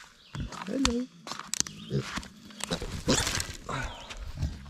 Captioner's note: birds chirping